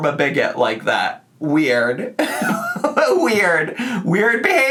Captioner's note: laughs